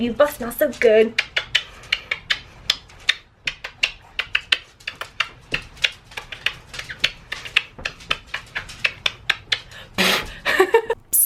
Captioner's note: kissing noises; blows hair out of face, giggles